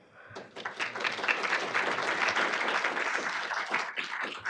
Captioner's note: audience applauding